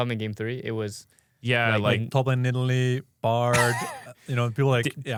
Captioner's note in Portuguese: risos